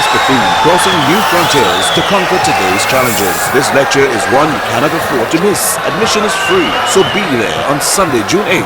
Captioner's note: wild applause and cheering for 22 seconds